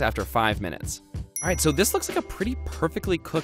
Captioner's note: dings